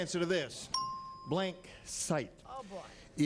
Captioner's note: bell rings